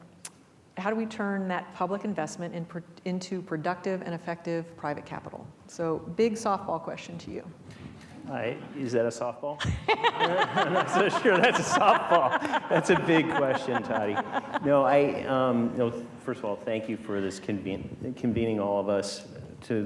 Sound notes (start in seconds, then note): 9.6 still laughing